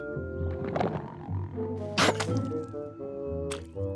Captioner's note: cat hacks